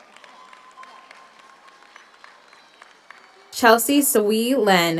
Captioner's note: audience applauds; audience cheers